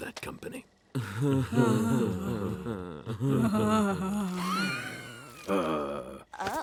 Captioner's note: mirthless laughter